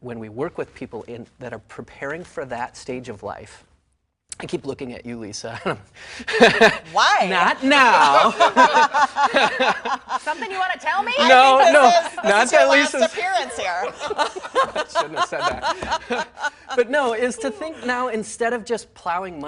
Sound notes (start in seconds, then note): 13.6 laughter